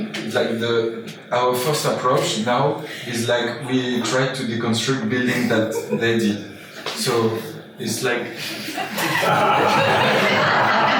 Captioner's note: laughter from audience